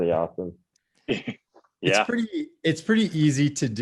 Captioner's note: chuckles